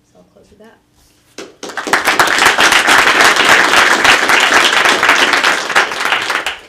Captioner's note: applause